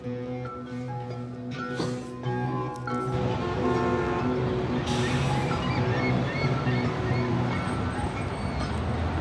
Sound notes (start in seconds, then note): 0.4 dramatic music; 3.2 horns honking; 5.0 birds squawking